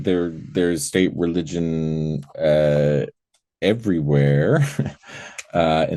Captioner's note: laughing